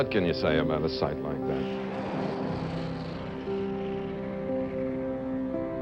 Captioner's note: boosters firing